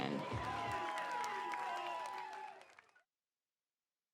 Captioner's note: applause